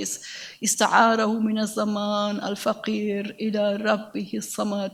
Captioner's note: speaks in a foreign language